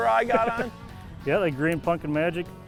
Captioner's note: laughs